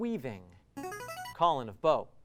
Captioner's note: ringing